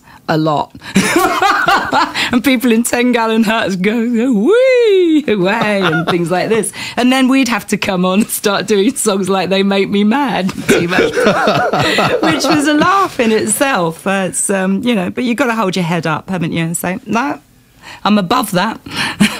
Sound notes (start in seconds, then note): 0.9 laughter; 10.6 laughter